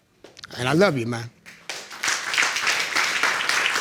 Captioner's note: audience clapping